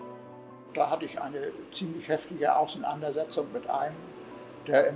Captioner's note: speaking in German